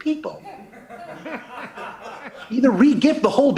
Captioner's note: light laughter